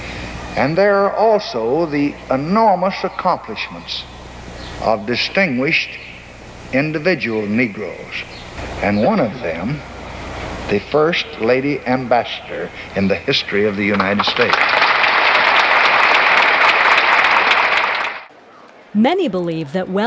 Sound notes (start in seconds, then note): 13.8 applause